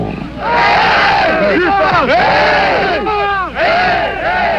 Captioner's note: all cheering